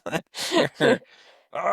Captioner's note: laughing